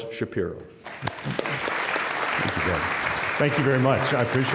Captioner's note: applause